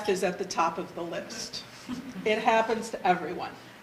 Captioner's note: audience laughter